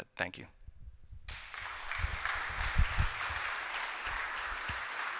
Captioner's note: applause